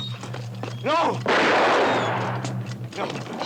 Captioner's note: gun fires